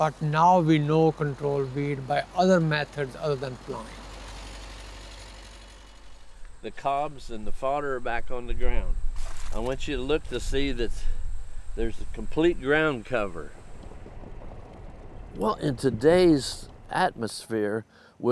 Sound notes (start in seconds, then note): 4.1 tractor engine rumbles